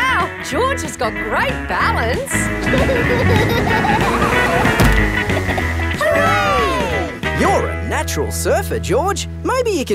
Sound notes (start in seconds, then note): 2.5 laughing